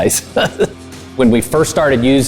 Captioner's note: laughs